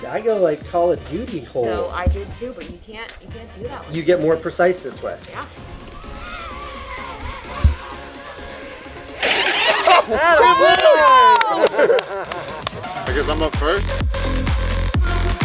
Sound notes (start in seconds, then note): 6.7 drone flying; 9.5 all cheering